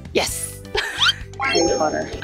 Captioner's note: confident